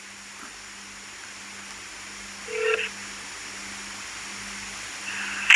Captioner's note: phone rings... call is connected